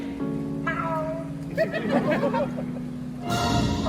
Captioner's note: meow; laugh